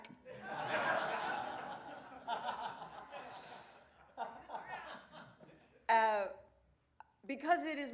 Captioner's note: laughter